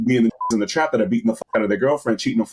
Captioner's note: beep